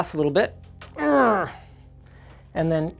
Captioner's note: grunting